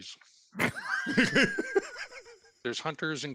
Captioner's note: laughing